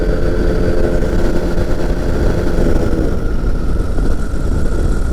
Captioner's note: plane engine rumbling